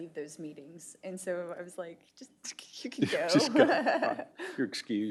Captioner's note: laughter